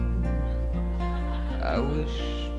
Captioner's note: audience laughs